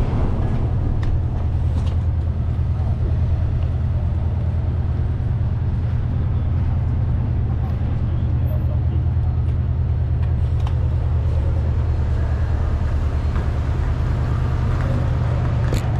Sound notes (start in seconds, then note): 6.9 vehicles humming; 7.4 people chattering